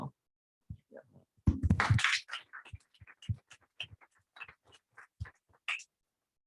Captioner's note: applause